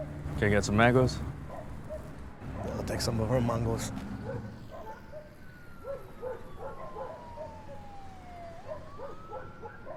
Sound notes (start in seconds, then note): 6.3 siren wails in distance